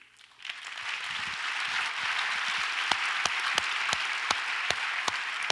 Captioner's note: audience applauds